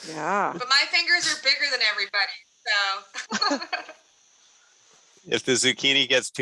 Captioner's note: laughs